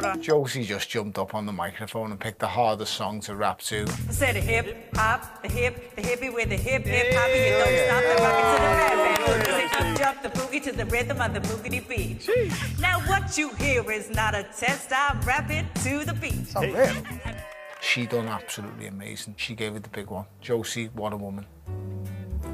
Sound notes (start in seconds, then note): 7.0 cheers; 17.2 applause